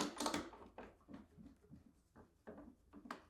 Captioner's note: metal snaps